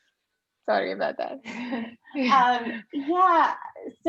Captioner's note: laughs